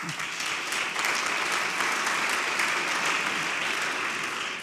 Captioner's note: audience applauds